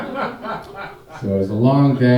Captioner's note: audience laughing